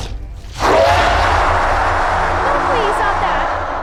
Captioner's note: scream